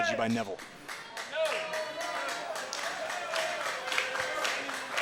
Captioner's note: crowd clapping